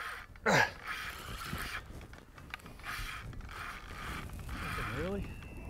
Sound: reel spinning

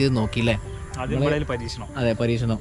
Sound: chatting

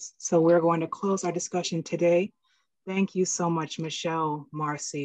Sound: none

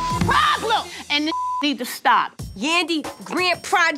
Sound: beep

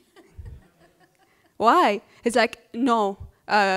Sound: laughter

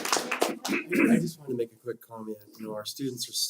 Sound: applause

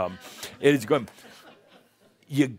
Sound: a few chuckles

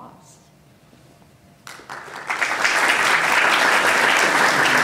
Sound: applause

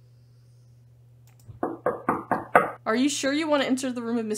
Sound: knocks

